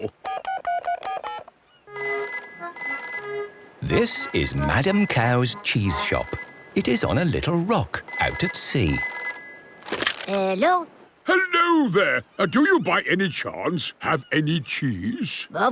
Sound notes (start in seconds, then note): 0.2 dial tone; 1.9 phone rings